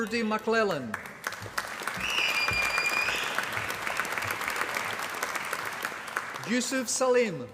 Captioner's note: applause